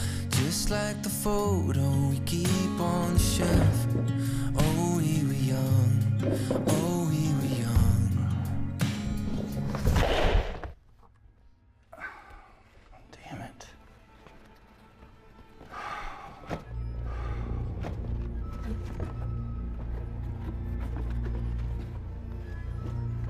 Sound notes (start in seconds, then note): 9.0 objects clattering; 11.9 Clint sighing; 15.6 Clint sighing heavily; 17.1 gentle tense music